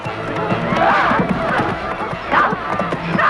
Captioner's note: Hundra laughs; women scream; Hundra shouting at horse